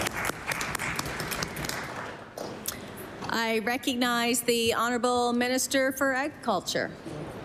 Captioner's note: applause